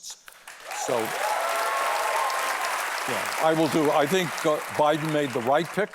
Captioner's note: applause